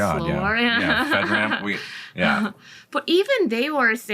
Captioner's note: laughs